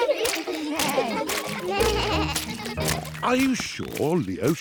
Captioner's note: bleating